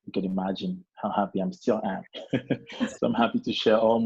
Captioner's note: laughs